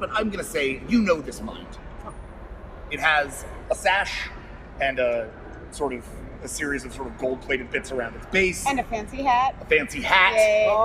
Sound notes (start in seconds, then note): none